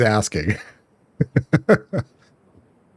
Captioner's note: laughs